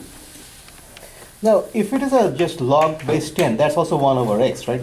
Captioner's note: voiceover